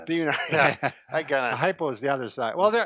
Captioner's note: laughs